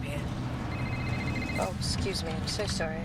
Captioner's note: phone ringing